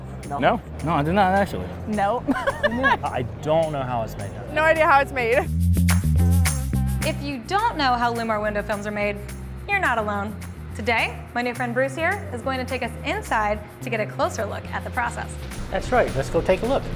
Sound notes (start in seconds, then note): 2.2 laughing; 5.4 upbeat music